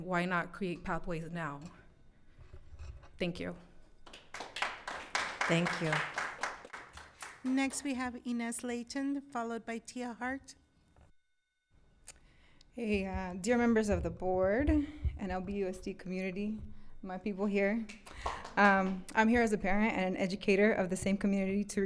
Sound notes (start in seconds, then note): 4.0 audience clapping